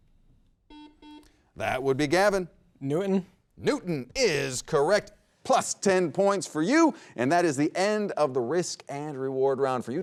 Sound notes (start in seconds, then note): 0.6 buzzer rings